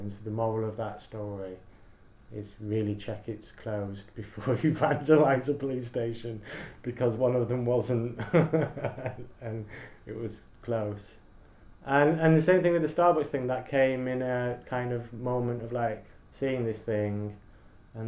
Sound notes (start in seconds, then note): 8.1 laughs